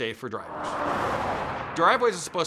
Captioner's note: traffic noise